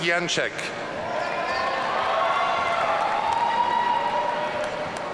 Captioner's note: audience cheering